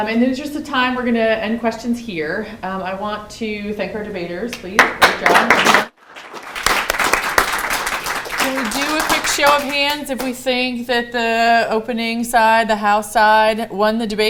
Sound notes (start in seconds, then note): 4.8 applause